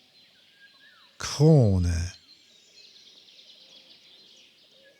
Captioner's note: german